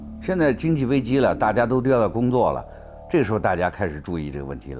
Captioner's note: speaks in Chinese